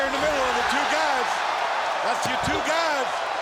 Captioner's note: audience cheering